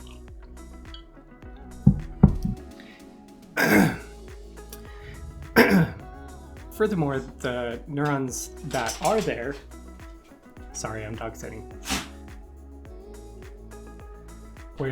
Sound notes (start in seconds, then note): 5.4 coughs; 5.4 clears throat; 6.7 slurps